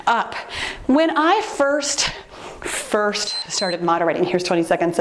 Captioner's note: timer beeps